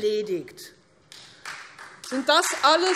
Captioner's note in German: Beifall Freie Demokraten